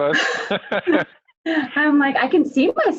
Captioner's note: laughter